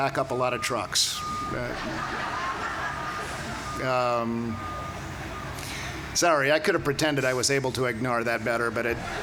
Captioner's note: laughter